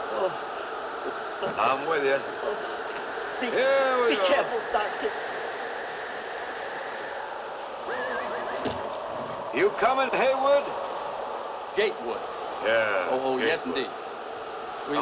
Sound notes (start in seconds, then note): 7.9 horse whinnies